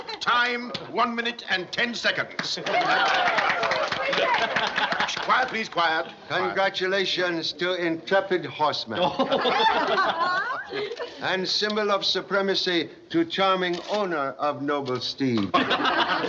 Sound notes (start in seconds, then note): 2.3 applause; 9.0 chuckles